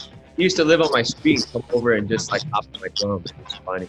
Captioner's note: audio breaks